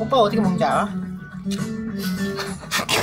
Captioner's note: slurp